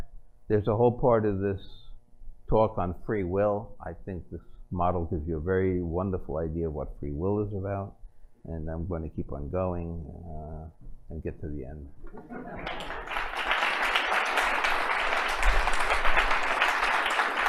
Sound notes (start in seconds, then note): 12.4 applause